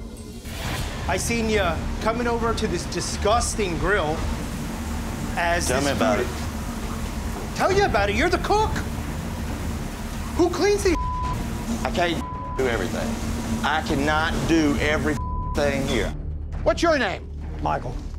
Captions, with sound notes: - I seen you coming over to this disgusting grill, as this food... - Tell me about it. - Tell you about it, you're the cook! Who cleans this (beep)? - I can't do everything. I can not do every (beeping) thing here. - What's your name? - Michael.